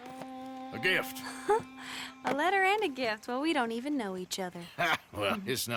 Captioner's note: laughs